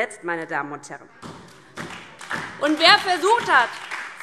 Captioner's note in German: Beifall DIE LINKE, SPD und Freie Demokraten